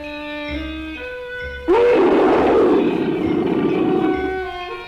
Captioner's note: Pete roaring